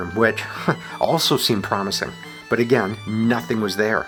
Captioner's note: chuckles